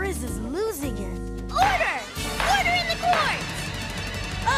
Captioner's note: gavel banging